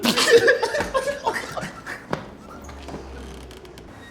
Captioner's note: people laughing